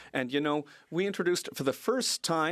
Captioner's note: speaking French